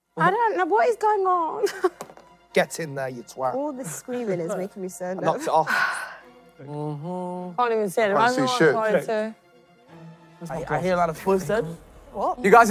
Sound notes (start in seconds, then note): 6.5 humming